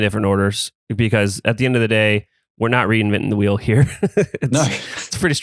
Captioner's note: laughs